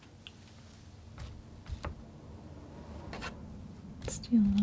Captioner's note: scratching